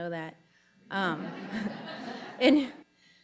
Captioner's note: audience laughing